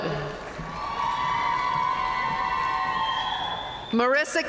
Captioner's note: audience cheering and applauding